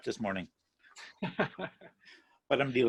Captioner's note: laugh